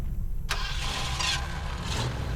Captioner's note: engine starts